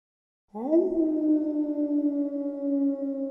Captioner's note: dog howling